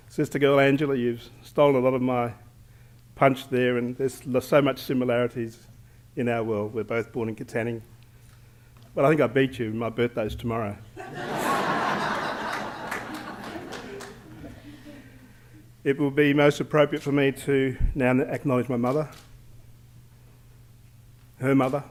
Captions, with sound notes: Sister-girl Angela, you stole a lot of my punch there, and there's so much similarities in our world. We're both born in Katanning, but I think I beat you. My birthday's tomorrow. [ Laughter ] It will be most appropriate for me to now acknowledge my mother,